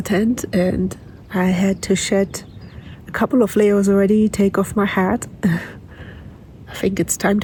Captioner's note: laughs